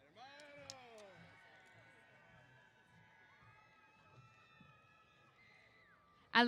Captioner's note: cheers